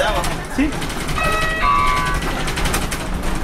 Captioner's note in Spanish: sonido de timbre